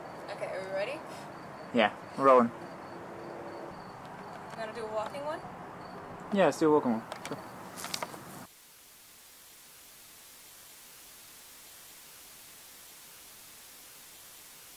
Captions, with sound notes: Okay, are we ready? Yeah, we're rolling. Want to do a walking one? Yeah, let’s do a walking one, sure. [Static]